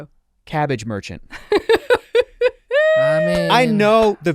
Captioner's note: laughs